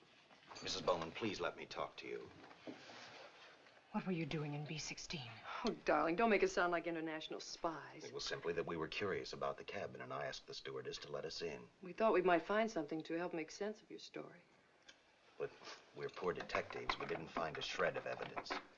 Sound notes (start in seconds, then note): none